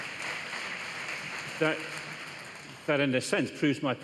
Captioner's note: applause